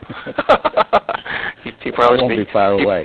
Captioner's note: laughs